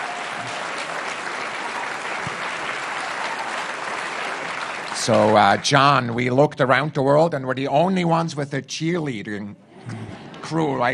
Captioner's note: applause